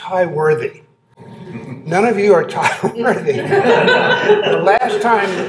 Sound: laughter

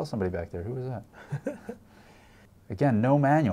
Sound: laughs

